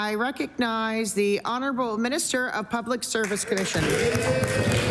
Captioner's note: applause